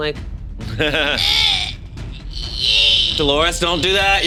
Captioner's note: struggling, whining